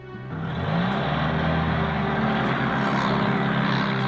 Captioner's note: car engine revving